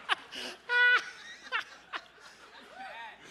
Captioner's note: laughter